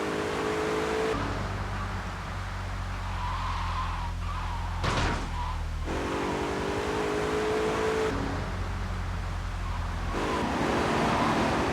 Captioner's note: sirens wailing